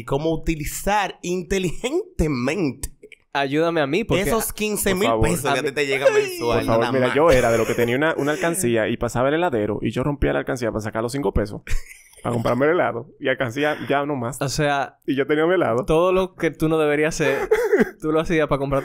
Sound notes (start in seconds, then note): 11.8 laughs